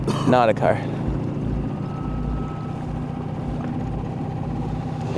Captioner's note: motor burbling